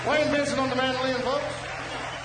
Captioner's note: audience cheering